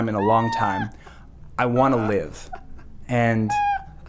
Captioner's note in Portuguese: Palhaço rindo